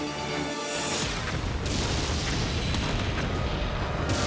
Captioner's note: explosion booming; siren wailing